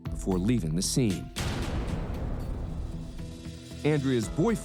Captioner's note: gunshot